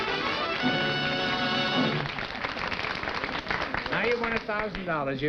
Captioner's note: applause